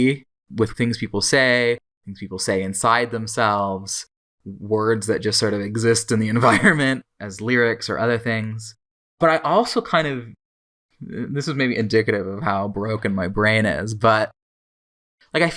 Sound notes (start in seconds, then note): 6.4 laughs